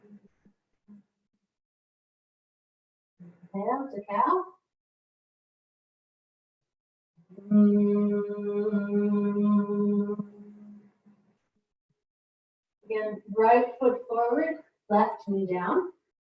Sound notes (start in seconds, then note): 7.4 humming